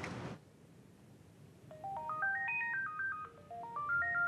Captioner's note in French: Sonnerie de téléphone